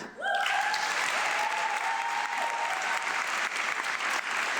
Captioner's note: audience clapping